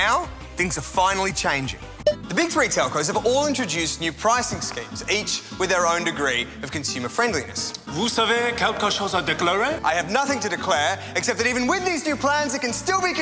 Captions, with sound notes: But now things are finally changing. The big three telcos have all introduced new pricing schemes, each with their own degree of consumer friendliness. (Speaks in French language) I have nothing to declare except that even with these new plans